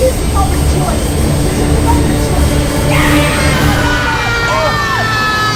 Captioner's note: screaming and indistinct chatter